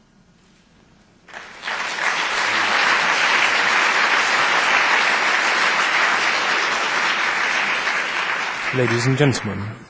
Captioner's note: applause